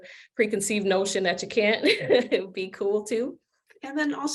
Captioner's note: laughs